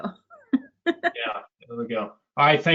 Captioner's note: laughs